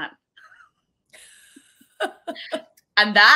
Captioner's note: giggling